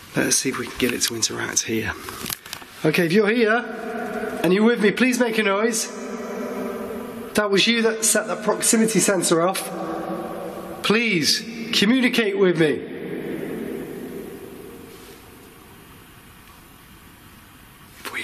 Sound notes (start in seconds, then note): none